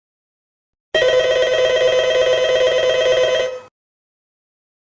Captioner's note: phone rings